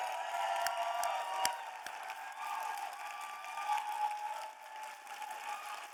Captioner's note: audience cheering and applauding